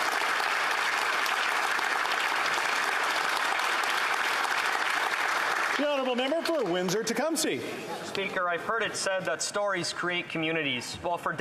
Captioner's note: applause